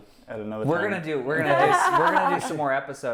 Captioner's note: laughing